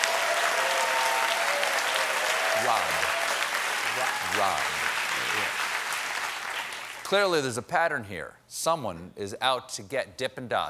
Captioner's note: applause